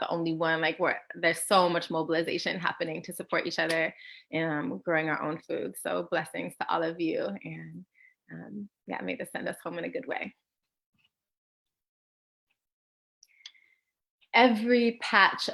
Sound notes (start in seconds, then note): none